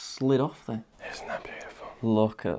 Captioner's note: whispering